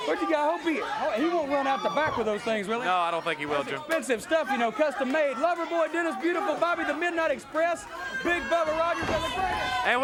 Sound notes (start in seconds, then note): 3.9 hands clapping